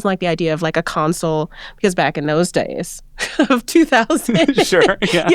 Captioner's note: chuckling